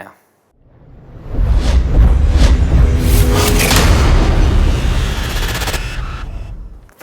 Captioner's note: sound effect